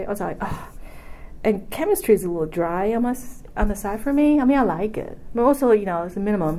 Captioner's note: sighs